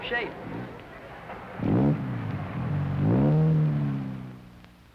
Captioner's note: engine revving